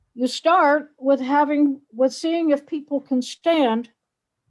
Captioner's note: none